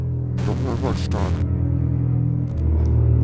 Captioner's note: Static